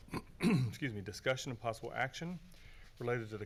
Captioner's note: clears throat